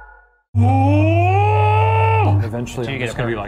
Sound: growling

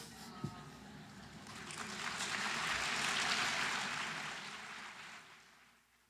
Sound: applause

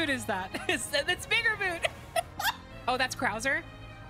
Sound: laughter

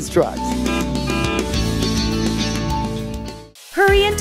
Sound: lively instrumental music; truck honks

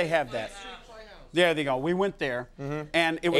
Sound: audience speaking indistinctly

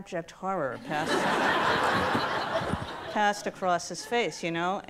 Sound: audience laughs

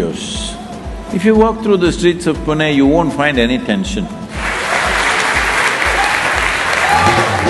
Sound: applause

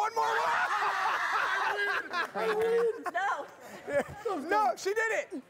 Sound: laughing

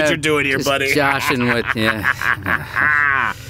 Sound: laughs

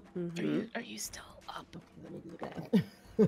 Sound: whispers

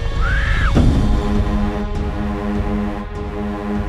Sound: loud bang

